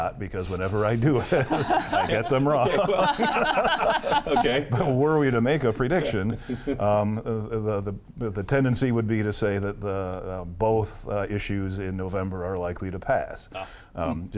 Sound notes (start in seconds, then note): 2.9 group laughs